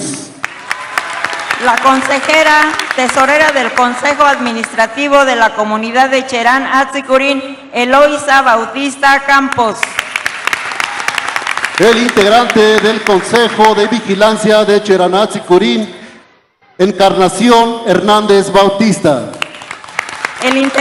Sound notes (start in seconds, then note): 9.6 applause